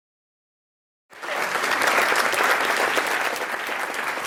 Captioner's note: applause